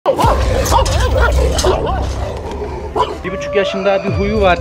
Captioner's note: barking sounds and tension music